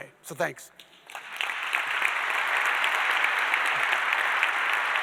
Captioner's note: audience applauding